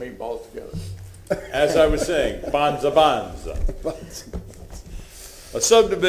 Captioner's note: laughter